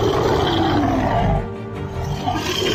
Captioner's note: monster Roar